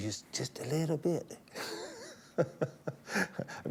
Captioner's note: laughs